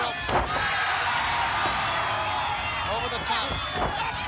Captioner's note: crowd cheering